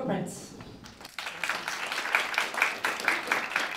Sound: applause

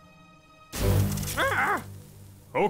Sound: bang; Dr. Crumpet yells

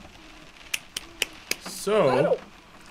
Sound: claps

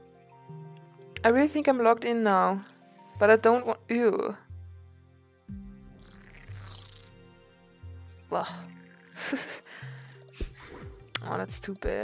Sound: giggles; clicks tongue

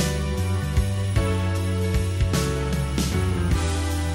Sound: none

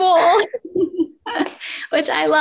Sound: laughing

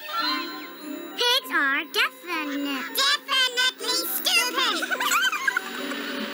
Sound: giggling

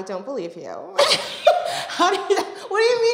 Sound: both laughing

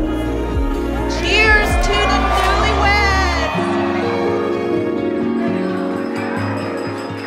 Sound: applause

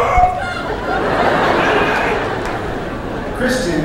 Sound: yelling; laughter

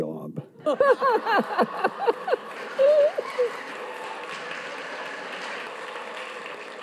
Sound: audience laughs; audience claps

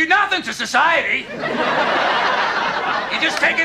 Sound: laugh track

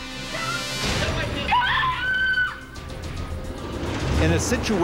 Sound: woman screaming

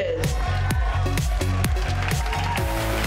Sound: attendees applauding; up tempo electronic music

